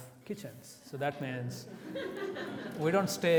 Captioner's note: audience laughs